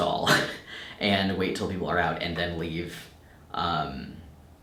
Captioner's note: chuckles